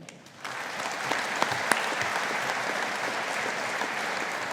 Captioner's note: audience applauding